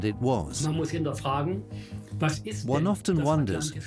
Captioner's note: speaks in German